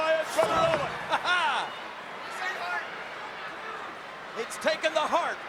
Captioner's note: Jerry laughs